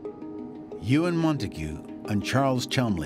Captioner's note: none